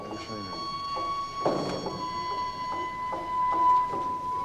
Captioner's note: top clunks